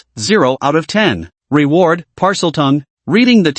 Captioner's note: Parseltongue